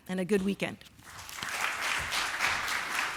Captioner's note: applause